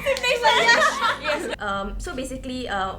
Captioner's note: laughs